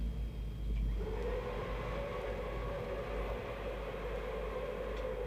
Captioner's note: machinery whirring